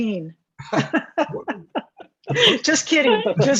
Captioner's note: laughter